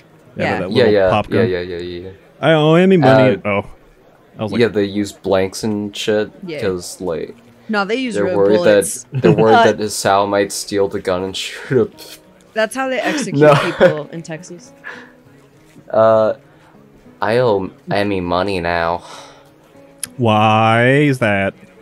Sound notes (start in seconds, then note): 9.1 chuckles; 9.1 snickers; 12.1 snickers